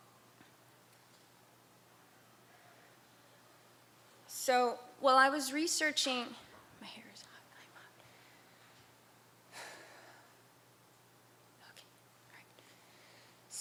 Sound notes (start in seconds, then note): 9.5 sighs